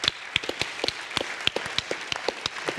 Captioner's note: applause